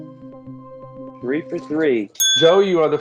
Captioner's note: ding